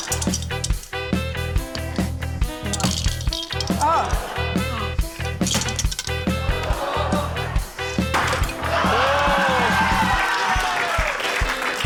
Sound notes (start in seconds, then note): 6.3 audience exclaims; 6.5 cheering, applause